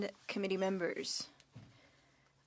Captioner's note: speaking French